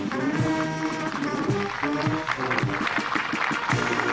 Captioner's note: applause